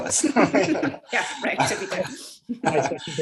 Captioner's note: laughs